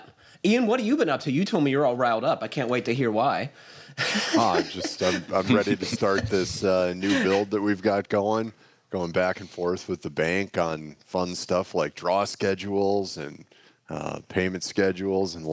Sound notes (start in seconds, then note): 4.0 laughs